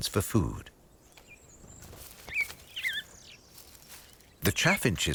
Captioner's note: birds chirping